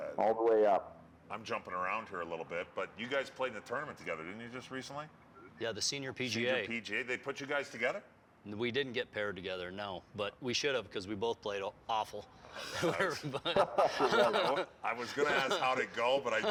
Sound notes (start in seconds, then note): 12.6 laughter